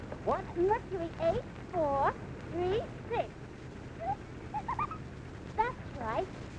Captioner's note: laughs